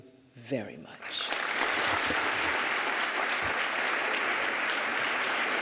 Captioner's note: applause